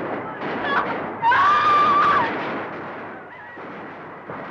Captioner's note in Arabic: يصرخ